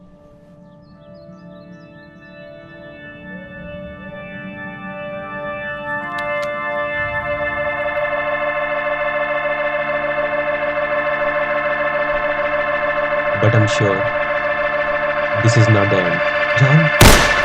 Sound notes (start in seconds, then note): 6.0 gun cocking